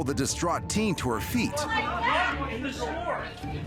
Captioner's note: indistinct chatter